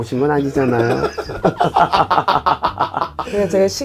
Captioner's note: laughing